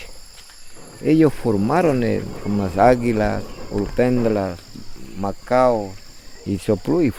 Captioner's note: birds